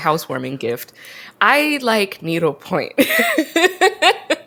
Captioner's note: laughs